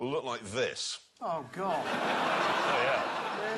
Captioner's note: laughter